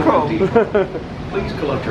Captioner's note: laughs